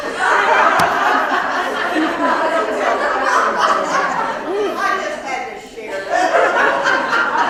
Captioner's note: laugh